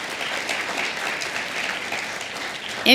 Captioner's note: applause